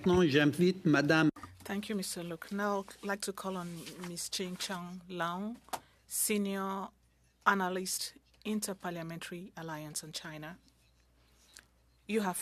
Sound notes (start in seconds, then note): 5.0 speaking French